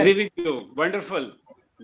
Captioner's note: connectivity hitch drowns other sounds